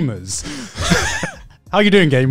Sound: laughs

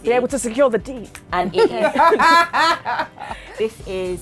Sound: women laugh

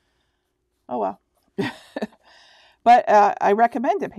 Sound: laughing

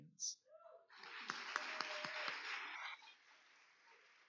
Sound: cheers and applause

